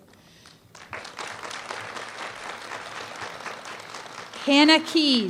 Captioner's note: applause